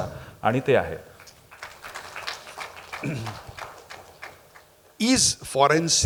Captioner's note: applause